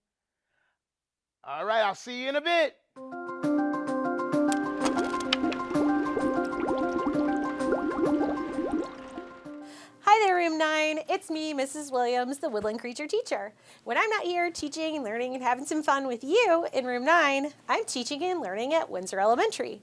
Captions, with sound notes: All right, I'll see you in a bit. (gentle music) (liquid bubbling) - Hi there, Room 9. It's me, Mrs. Williams, the Woodland Creature Teacher. When I'm not here teaching and learning and having some fun with you in Room 9, I'm teaching and learning at Windsor Elementary,